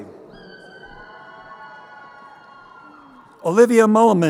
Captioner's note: crowd cheering